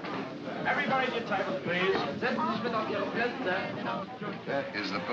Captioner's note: speaks in German